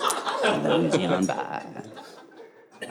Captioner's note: audience laughing